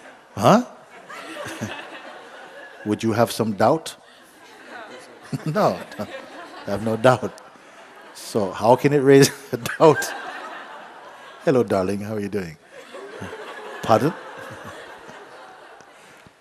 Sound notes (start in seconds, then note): 0.8 laughter; 4.7 laughter; 10.3 laughing